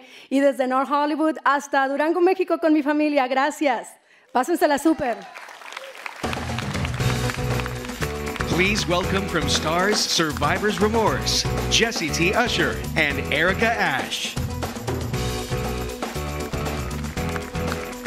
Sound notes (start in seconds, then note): 4.8 cheers and applause